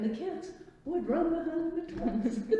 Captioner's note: laughs